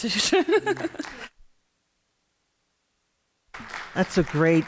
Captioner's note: applause